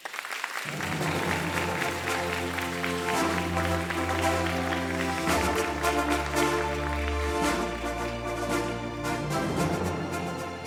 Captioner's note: applause, Music